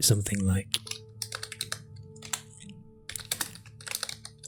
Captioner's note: taps on keyboard